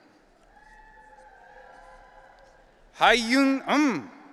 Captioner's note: audience cheering